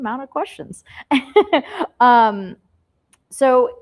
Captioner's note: laughs